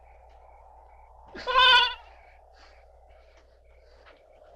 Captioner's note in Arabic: نباح الماعز